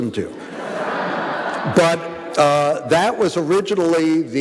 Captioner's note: audience laughing